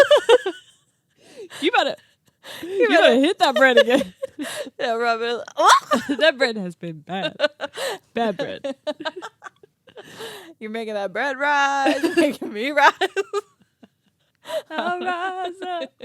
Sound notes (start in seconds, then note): 0.1 both laugh; 5.8 squeals; 7.2 laughs; 12.8 both laugh